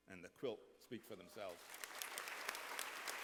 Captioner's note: applause